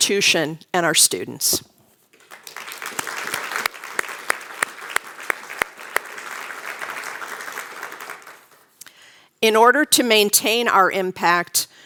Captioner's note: applause